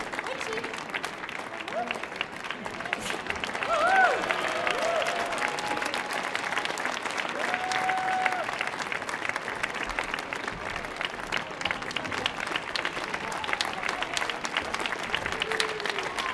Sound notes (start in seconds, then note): 2.7 audience cheering; 3.8 audience applauding